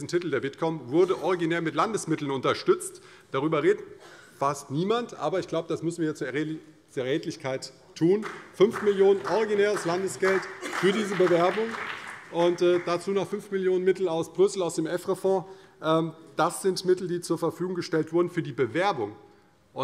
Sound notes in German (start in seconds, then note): 8.2 Vereinzelter Beifall CDU und BÜNDNIS 90/DIE GRÜNEN